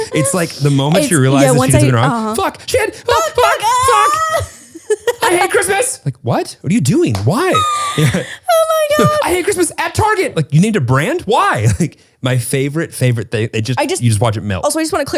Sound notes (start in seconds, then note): 3.0 laughs and screams